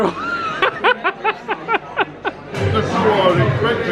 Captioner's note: laughing